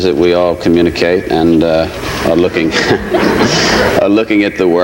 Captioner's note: chuckles